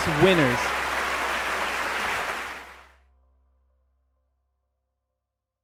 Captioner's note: audience applauding and cheering